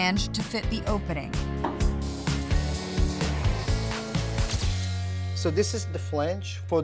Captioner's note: sizzling sound